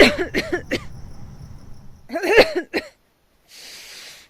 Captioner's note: coughing